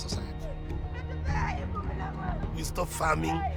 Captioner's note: crying